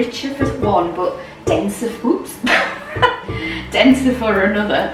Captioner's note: laugh